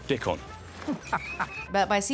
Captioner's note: laughing